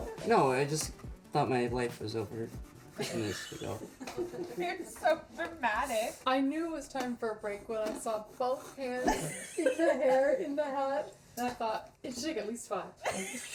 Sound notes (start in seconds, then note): 4.0 crew laughs